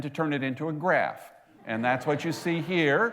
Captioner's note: laughter